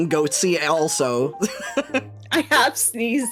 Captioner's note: laughing